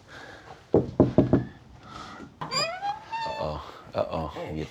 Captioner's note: knocking on door